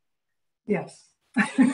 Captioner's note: laughter